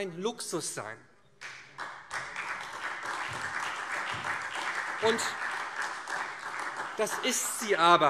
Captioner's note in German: Beifall SPD